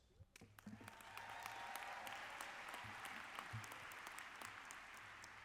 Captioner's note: audience applauds